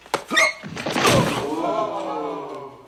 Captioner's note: crashing; crowd whoaing